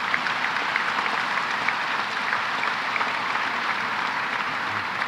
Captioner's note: applause